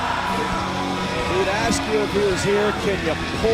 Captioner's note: crowd cheering